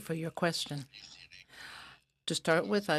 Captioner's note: speaking in french